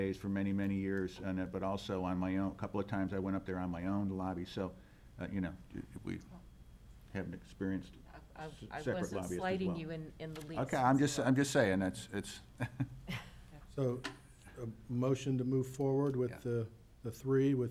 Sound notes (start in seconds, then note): 12.4 chuckling